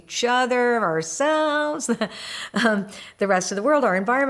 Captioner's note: laughs